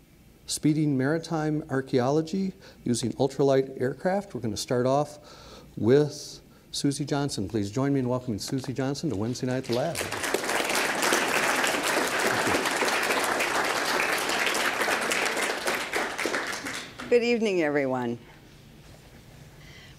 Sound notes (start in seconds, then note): 9.6 audience applause